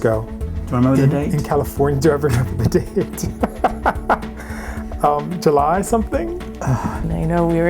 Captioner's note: laughs